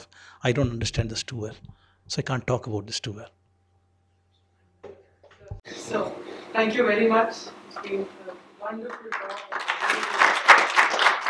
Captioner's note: applause